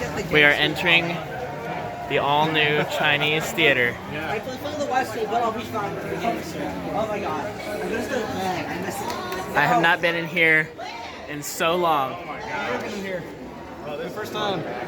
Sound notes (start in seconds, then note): 4.7 crowd ambience